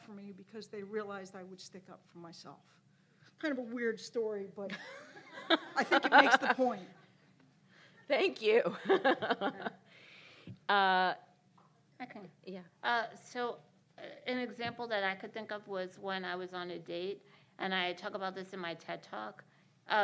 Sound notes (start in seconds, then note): 5.2 laughter